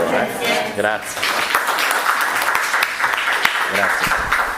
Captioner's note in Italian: applauso